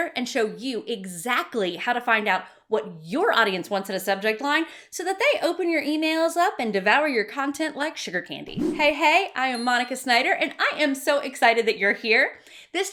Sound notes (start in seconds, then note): 8.5 swishing; 9.5 bell dinging